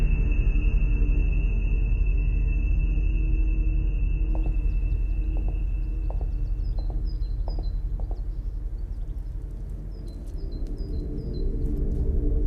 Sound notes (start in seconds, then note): 4.3 birds chirping; 4.4 gentle tense music